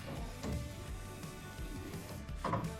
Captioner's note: wood clanking